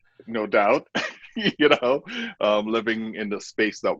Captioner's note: laughing